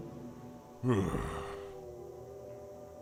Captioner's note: sighs